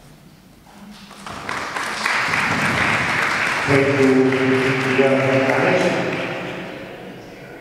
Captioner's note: Applause and Jicín Museum spot starts playing